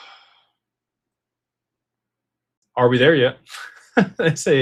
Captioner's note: sighs